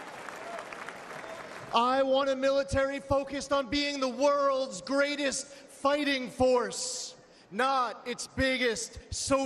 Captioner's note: applause